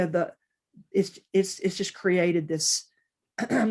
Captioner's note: clears throat